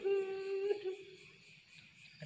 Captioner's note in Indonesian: menangis